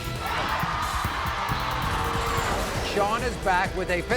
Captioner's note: applause